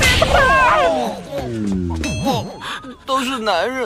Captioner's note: crying, upset, sobbing